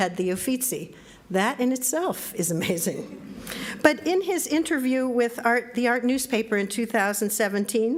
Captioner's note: laughs